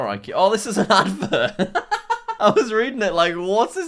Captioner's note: laughing